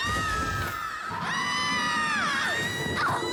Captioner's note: screaming